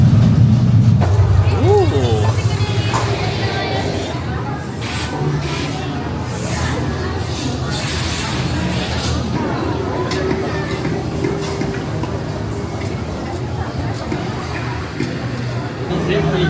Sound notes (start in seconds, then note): 6.5 crowd murmuring